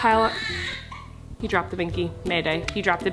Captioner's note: baby cries